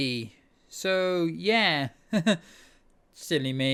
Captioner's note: chuckles